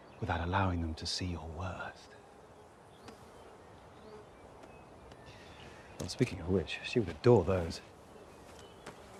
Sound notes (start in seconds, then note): 2.9 bee buzzing faintly